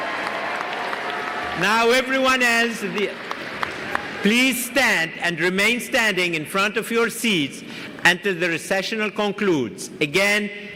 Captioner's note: applause